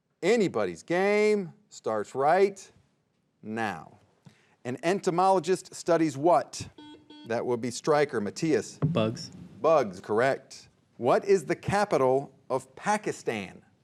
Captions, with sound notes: Anybody's game, starts right... now. An entomologist studies what? (buzzer beeping) That would be Stryker, Mattias? - Bugs. - Bugs, correct. What is the capital of Pakistan?